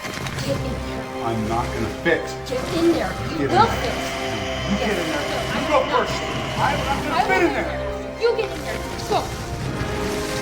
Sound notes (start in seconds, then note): 3.4 creature growling